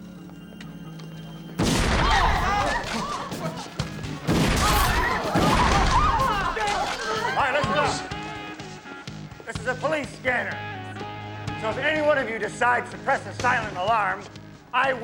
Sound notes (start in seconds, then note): 1.6 gunshots blasting; 1.6 people screaming